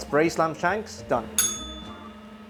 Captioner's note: bell rings